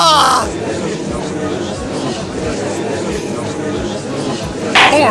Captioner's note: gallery chattering